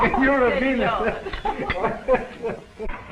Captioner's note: laughter